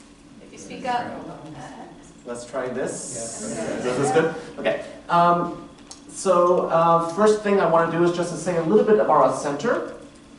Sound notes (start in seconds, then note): 3.8 murmur of approval